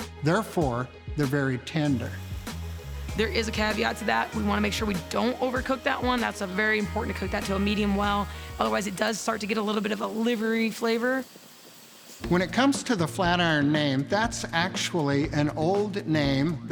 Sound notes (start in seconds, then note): 2.3 upbeat music; 11.4 sizzling